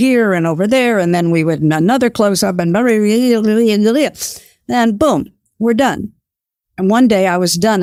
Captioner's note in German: murmelt